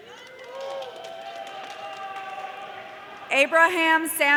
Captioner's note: audience cheering